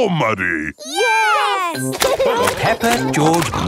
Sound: laughing

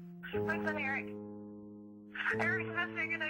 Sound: Kathleen On Phone

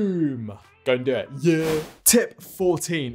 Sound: screenwipe whooshes

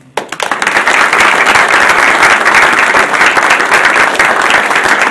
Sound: audience applauding

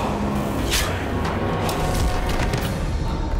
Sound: sickle sound

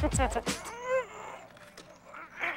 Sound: chuckling; grunting

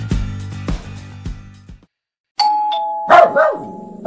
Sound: dog barking; ding-dong

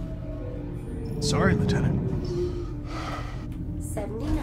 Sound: sigh

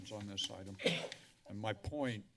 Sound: coughs

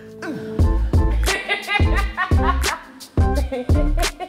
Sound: laughter

